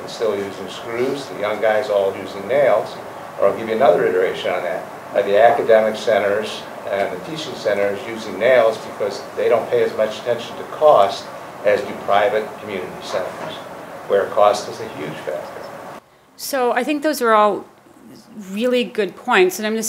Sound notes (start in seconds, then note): 4.3 jumbles words together